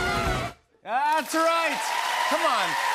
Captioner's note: cheers and applause